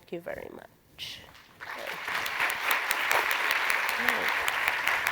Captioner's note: applause